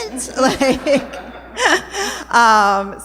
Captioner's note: laughter